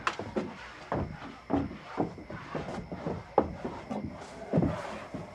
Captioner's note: footsteps, dragging sounds